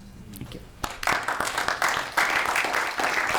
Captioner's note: applause